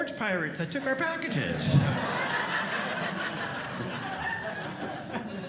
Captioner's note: audience laughing